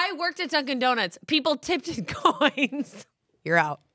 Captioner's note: laughs